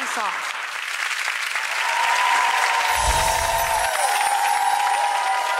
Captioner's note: audience applauding